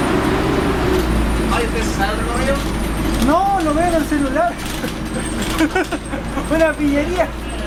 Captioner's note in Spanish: risas